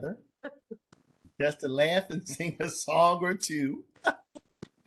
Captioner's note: laughter